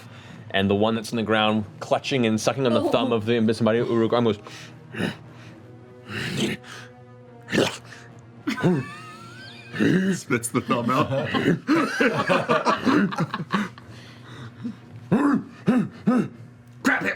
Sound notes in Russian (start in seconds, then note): 4.6 испуганно вопит; 4.6 недоумённо мычит; 6.0 шмыгает и кряхтит